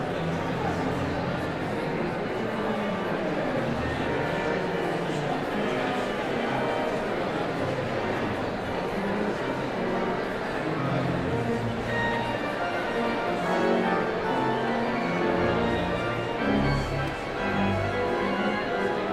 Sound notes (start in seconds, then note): 9.9 audience chatter continues; 10.4 sound of organ tuning